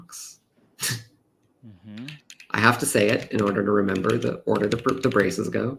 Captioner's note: laughs